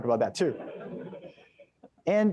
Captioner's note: laughter